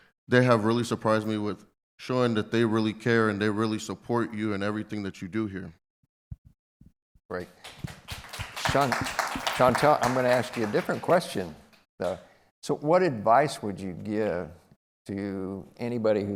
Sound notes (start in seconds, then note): 7.6 applause